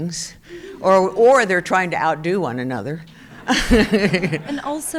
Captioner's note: chuckles